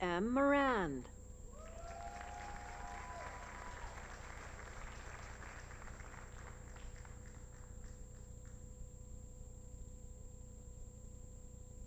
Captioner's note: applause